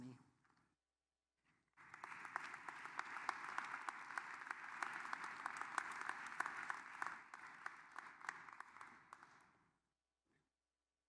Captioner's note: applause